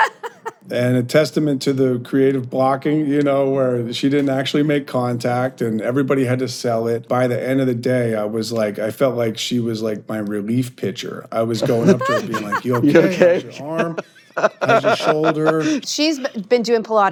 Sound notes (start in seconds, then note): 15.0 laughs